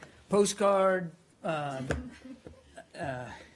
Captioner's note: laughter